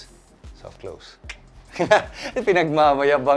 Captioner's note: laughs